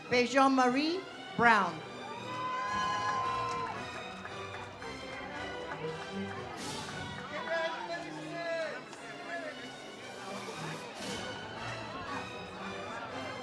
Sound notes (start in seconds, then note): 2.0 audience cheers; 10.5 ceremonial music